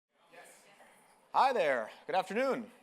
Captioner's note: people chattering